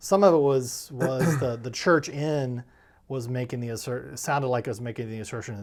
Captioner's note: clears throat